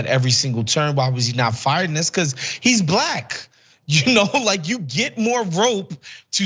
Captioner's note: laugh